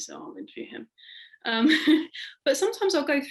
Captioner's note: laughing